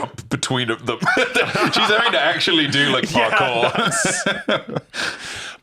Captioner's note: laughs